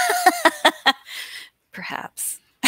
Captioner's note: laughing